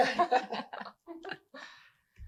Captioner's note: laughter